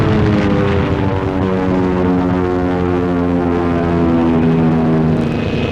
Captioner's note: explosions; planes flying overhead